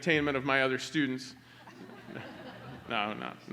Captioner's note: laughter